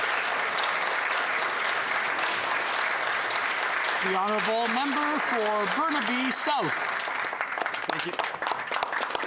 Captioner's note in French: applaudissements